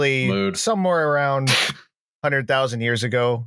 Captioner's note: laughs briefly